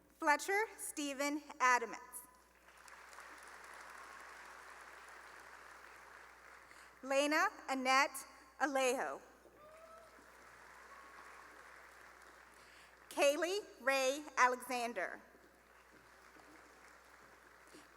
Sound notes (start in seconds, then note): 5.0 applause; 9.5 cheering and applause; 16.4 applause